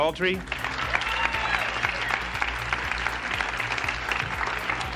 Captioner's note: audience applauding